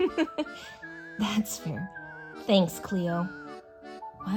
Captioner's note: laughs